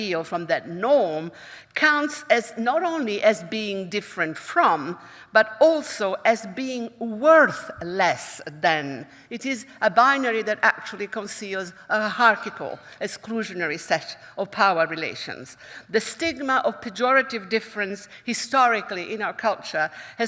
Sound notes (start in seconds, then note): none